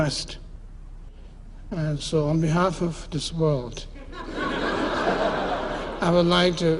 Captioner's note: laughter